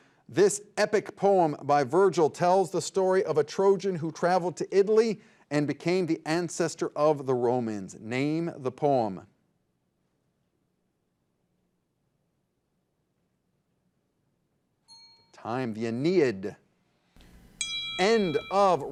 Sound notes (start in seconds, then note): 14.8 bell rings; 17.5 bell rings